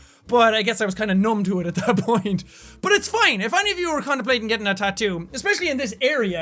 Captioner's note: laughing